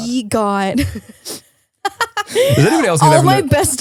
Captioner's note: laughs